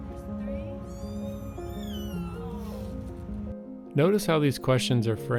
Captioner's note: cats meowing